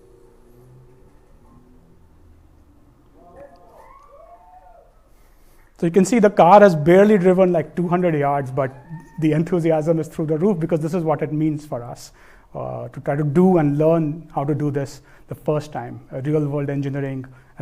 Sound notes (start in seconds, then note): 3.2 cheering